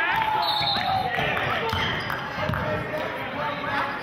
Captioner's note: whistling